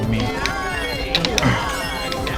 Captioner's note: Wii Remote shaking grunt